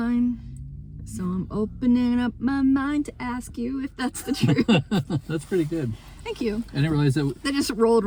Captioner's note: laughs